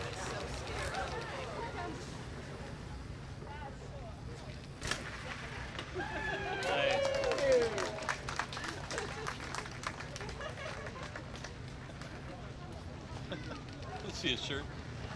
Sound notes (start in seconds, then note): 6.0 cheers and applause from the crowd